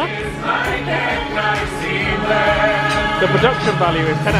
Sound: laughs

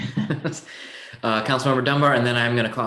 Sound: chuckling

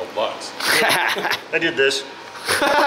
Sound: laughs; men laugh

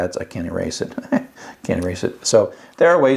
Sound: laugh

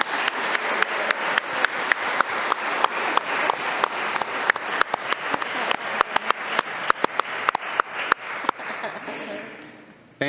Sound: applause

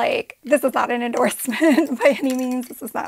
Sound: laughing

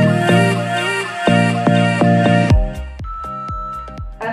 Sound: timer beeping

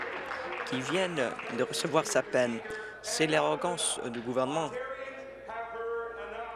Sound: applause

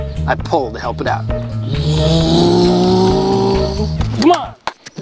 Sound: revving like an engine

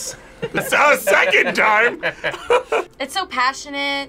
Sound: both laugh

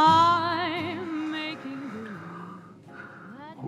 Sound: hospice sounds

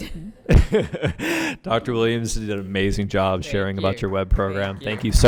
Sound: laughs

